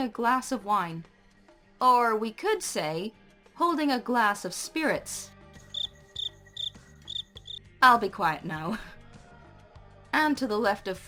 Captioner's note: crickets